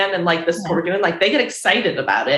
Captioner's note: chuckles